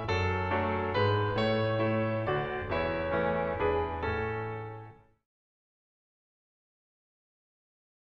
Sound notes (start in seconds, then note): 5.2 silence